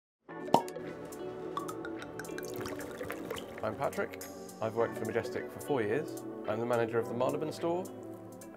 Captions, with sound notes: (popping sound) (liquid being poured) - I'm Patrick, I've worked for Majestic for four years I'm the Manager of the Marylebone store